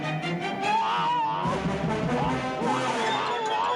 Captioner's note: obadiah crying